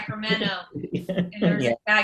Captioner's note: laughing